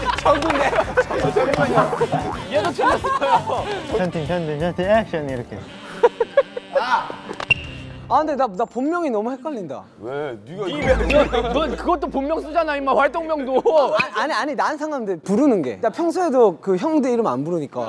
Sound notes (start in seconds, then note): 0.0 haha; 1.5 kekekeke; 5.7 kekekekeke